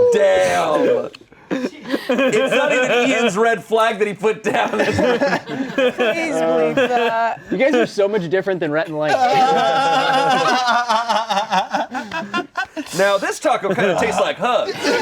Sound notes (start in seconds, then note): 9.1 laughing